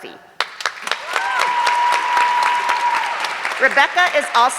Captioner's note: audience clapping